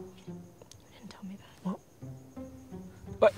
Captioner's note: quietly